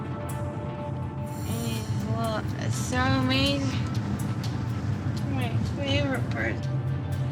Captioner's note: slurring